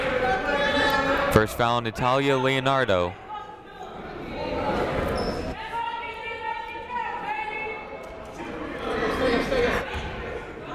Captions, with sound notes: (people shouting in the crowd) First foul on Natalia Leonardo. (people shouting in the crowd)